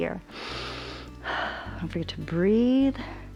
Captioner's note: inhales and exhales